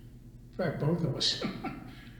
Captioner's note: laughs